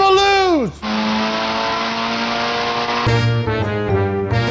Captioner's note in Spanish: revoluciones del motor